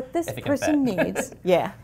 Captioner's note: laugh